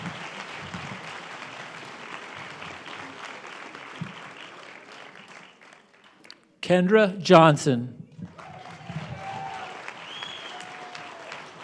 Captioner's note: applause